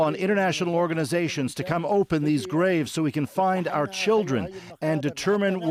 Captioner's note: speaking alternate language